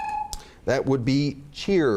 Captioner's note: beeps